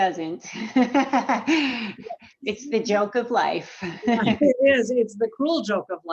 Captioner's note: laughs